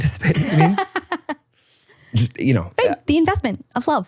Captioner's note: person laughing